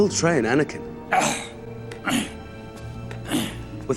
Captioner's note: Yoda grunts